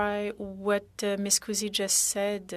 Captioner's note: speaking french